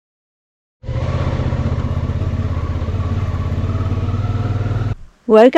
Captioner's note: motorbike engine